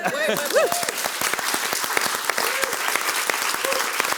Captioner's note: audience applauds